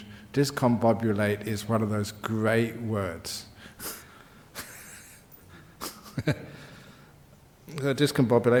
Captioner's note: laughs